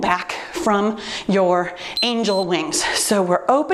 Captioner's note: timer beeps